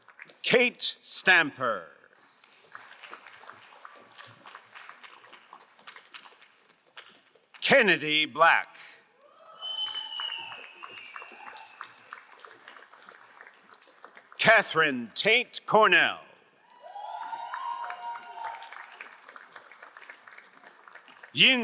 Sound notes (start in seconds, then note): 2.2 crowd applauding; 9.4 crowd applauding; 16.6 crowd cheering and applauding